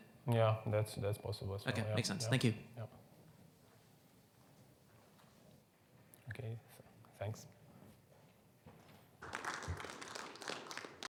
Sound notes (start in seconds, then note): 9.2 audience applauds